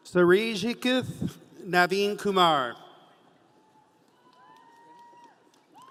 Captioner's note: audience cheering